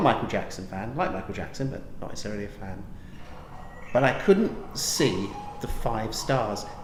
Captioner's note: cuckoo clock rings